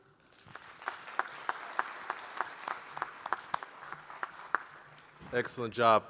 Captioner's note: applause